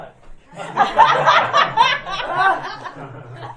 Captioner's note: laughing